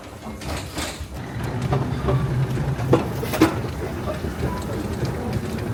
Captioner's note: trolley clacking faintly